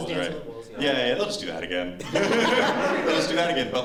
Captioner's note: laughter